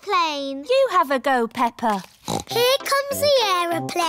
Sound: snorts

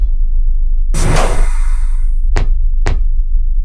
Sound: loud, muffled crash; door hisses and opens, footsteps

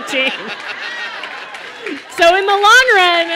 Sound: laughter and applause

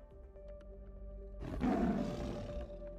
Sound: tiger growling

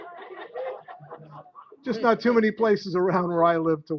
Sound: laughter

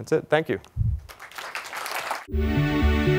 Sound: applause

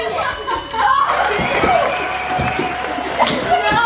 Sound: bell dings

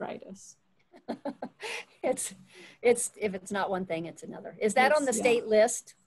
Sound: laughs

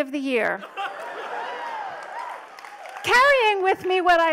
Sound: audience laughs

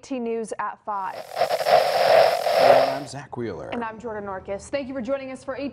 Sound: Static

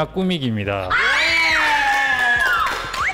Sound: cheers

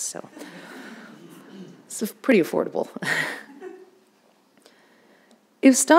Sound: audience laughing

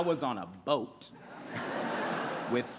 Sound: laughter

